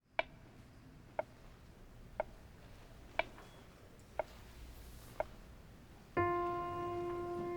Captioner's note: metronome ticks steadily